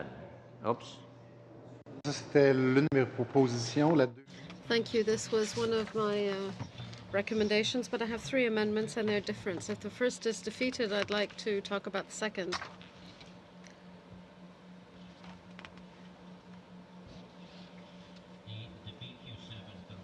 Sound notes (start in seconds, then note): 9.5 speaking French